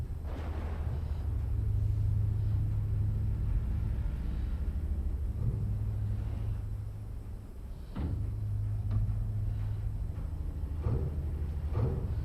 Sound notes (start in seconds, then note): 0.1 thunder cracking; 7.9 light thudding